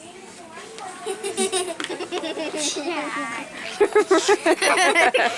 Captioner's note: children laughing